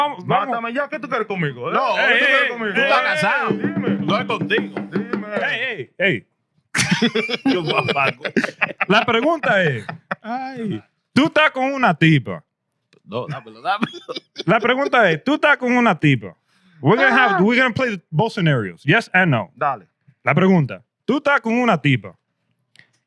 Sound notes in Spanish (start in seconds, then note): 0.2 Hablando en idioma extranjero; 0.2 Riendo; 7.5 Hablando en idioma extranjero; 20.6 Hablando en idioma extranjero